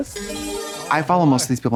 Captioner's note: bright chime